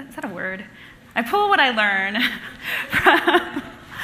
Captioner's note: laughing